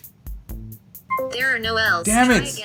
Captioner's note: voiceover